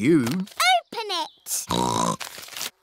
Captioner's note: snorts